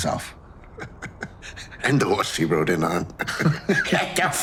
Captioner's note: laughing